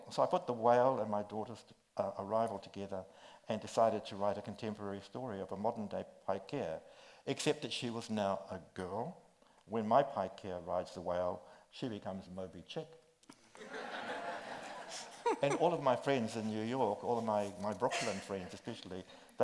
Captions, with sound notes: So I put the whale and my daughter's arrival together and decided to write a contemporary story of a modern day Paikea, except that she was now a girl. When my Paikea rides the whale, she becomes Moby Chick. (group laughs) And all of my friends in New York, all of my Brooklyn friends especially,